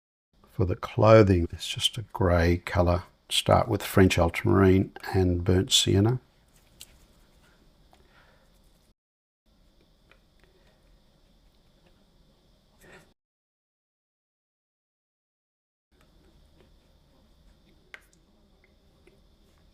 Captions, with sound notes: For the clothing, it's just a grey color. Start with French ultramarine and burnt sienna. [silence]